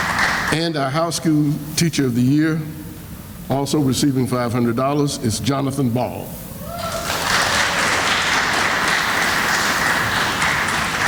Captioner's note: sounds of applause; sounds of applause